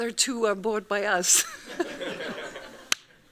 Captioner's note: laughing; laughs